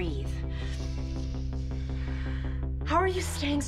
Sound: Liz and Anne inhaling, exhaling

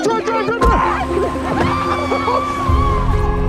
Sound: screaming

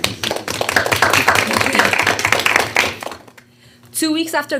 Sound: board members applauding

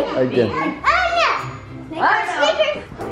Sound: baby mumbles

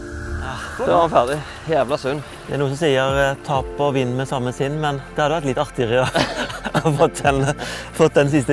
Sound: giggle

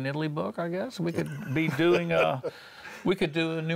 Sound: laughter

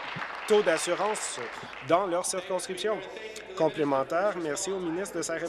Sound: applause

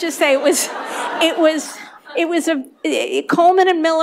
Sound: laughter

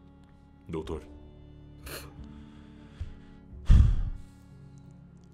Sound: sighs

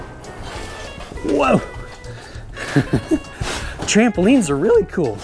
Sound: laughs

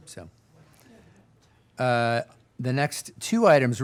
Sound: people chattering

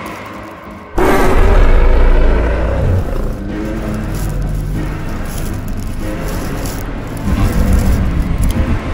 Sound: carcharodontosaurus roars

